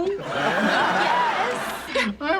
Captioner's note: audience laughs